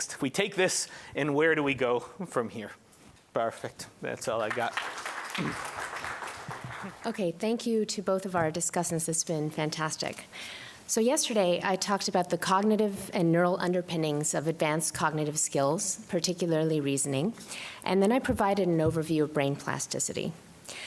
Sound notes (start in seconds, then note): 4.3 applause